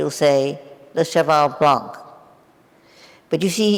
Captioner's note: speaking in foreign language